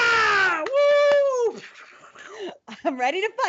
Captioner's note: whooshing